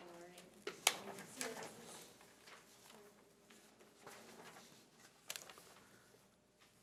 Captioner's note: speaking faintly